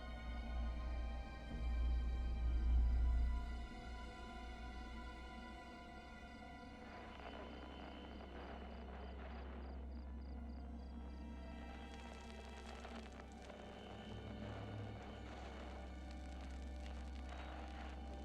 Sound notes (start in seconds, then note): 7.7 static crackling